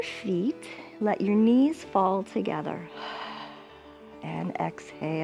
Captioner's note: exhales